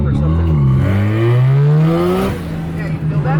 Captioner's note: engine revs